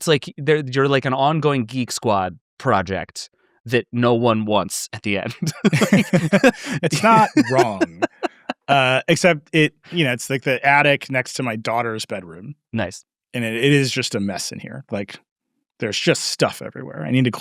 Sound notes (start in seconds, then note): 5.0 both laughing; 8.1 laughing